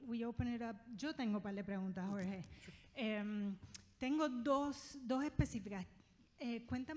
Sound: speaking in foreign language

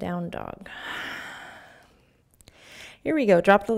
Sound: exhaling

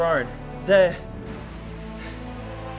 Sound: breathing

